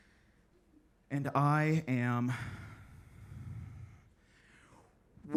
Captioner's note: exhales